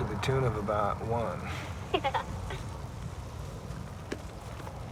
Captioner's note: giggles